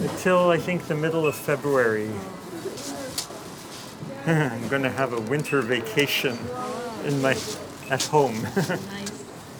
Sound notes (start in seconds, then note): 4.7 chuckling